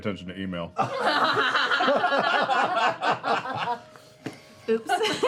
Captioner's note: laughter